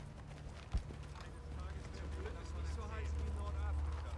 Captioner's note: men speaking German